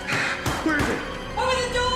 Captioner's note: hand pounding